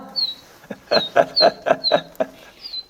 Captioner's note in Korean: 웃음